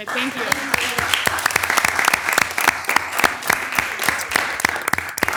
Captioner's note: audience applauding